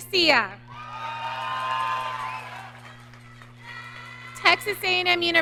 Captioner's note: audience cheering